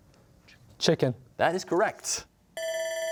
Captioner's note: bell rings